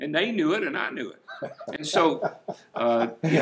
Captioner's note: chuckling